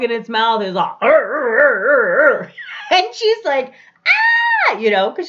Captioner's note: bear growling; screams